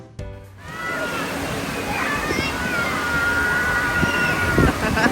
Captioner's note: children playing